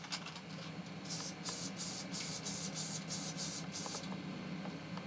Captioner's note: can spraying